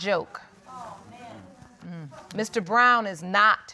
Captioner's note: audience muttering